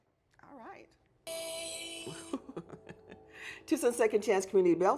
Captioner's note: ringtone plays; laughs